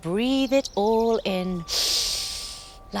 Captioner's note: inhale